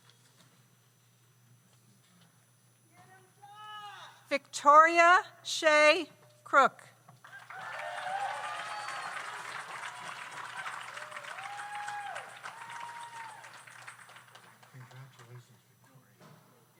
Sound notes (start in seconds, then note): 7.2 audience applauds; 7.3 audience cheers